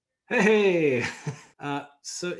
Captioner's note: chuckles